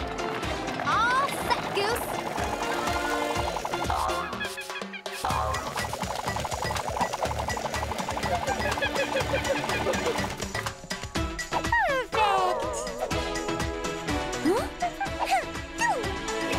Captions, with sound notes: - All set, Goose! (monkey cries) - Perfect! Huh? Ha! Shoo!